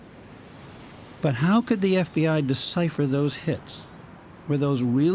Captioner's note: voice-over